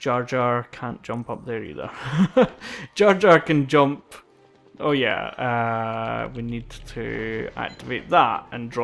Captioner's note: laughs